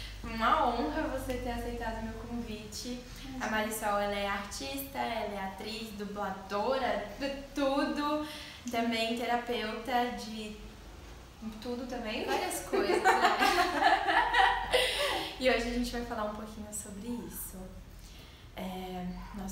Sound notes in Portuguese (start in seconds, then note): 12.7 risos